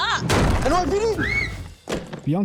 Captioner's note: tiny scream